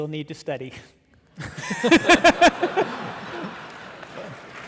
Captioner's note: audience laughing